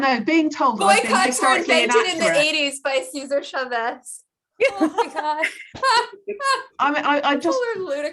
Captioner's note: laughs